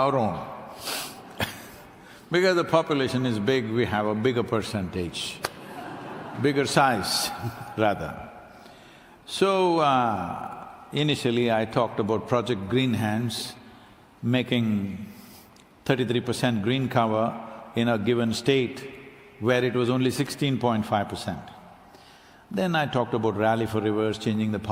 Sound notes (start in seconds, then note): 9.3 few laugh